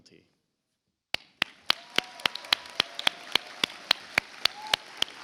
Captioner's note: audience applauds